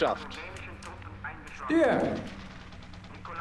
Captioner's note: speaking german